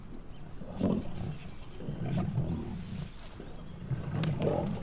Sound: lions growling

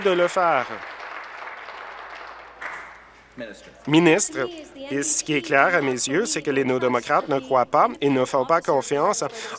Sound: applause

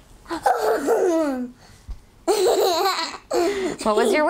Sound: laughing

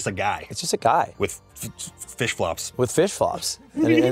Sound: stutters; giggles

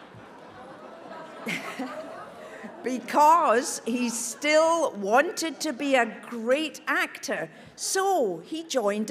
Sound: audience laughs

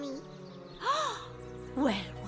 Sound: gasps

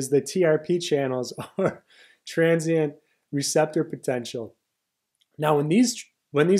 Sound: chuckles

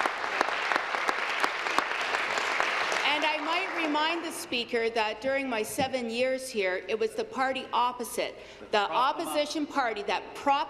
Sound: applause

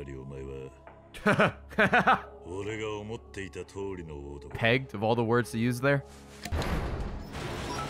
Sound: laughs

